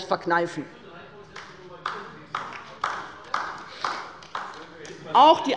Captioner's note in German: Beifall bei der LINKEN - Zurufe von der CDU